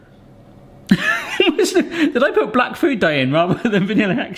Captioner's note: chuckling